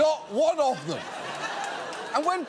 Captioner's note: studio audience laughing